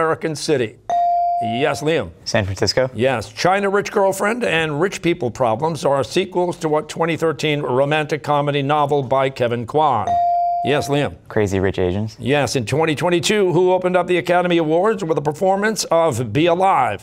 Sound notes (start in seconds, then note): none